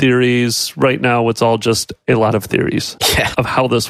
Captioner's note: laughs